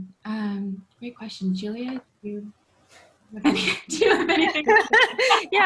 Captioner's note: laughs